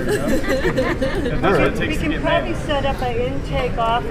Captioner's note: woman giggles